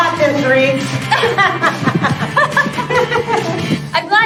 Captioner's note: laughing